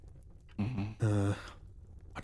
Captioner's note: sighs